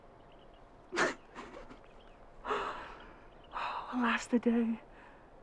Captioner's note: giggling